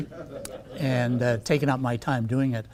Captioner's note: audience laughing